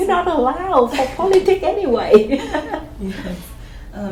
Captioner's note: laughs